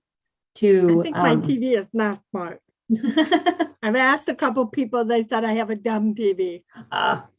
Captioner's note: laughter